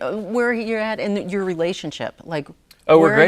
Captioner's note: none